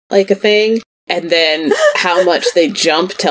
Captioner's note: laughs